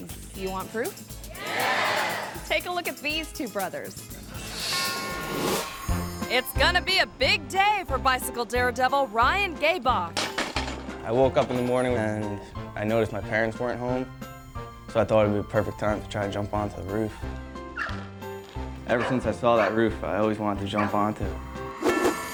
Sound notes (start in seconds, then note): 10.2 bike thuds